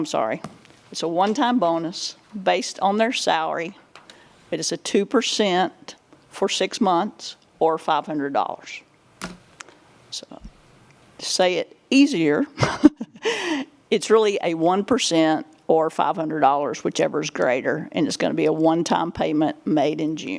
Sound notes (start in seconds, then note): 12.6 laughing